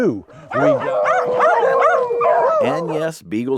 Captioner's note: dogs barking